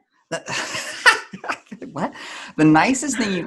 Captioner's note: laughs